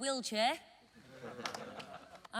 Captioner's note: laughing